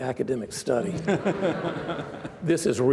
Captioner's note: laughing